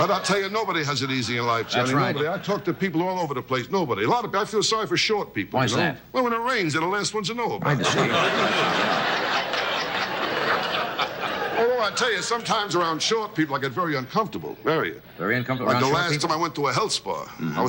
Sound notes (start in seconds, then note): 7.7 audience laughing drowns out speakers